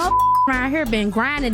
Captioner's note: beep